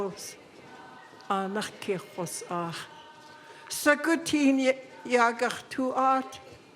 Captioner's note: speaking in Lingít